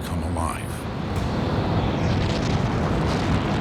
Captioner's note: engines roaring